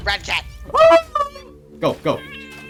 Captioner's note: ghastly yelp